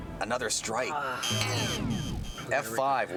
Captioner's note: buzzing